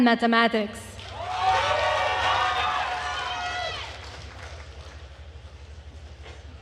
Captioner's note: attendees cheering and applauding